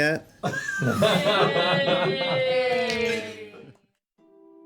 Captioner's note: laughter